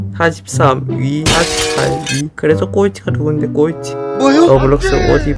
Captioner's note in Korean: 쨍그랑